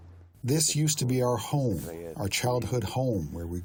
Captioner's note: through translator